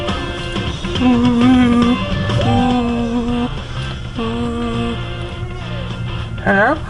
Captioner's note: phone ringing